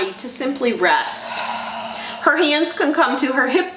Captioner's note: exhales